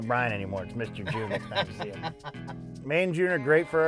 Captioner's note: laughing